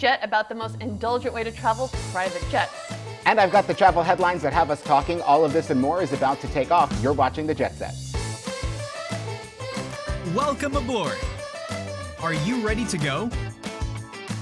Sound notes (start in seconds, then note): 8.2 lively music; 10.4 male Voice